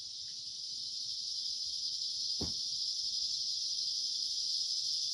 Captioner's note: cicadas loudly chirping